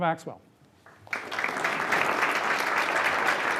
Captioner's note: applause